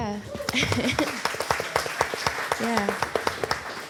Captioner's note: audience applause